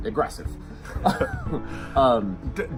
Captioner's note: both laugh